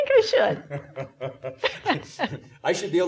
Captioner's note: laughing